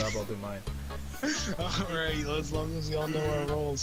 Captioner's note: laughing